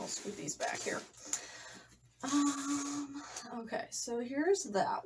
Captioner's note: shuffles books around